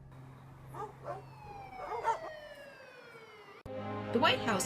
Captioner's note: dog barks